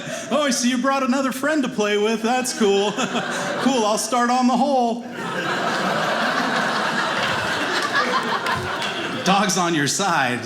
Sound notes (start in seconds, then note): 5.0 audience laughing